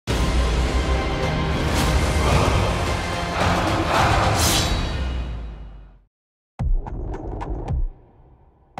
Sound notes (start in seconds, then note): 3.2 growling